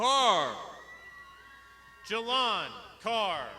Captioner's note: crowd shouting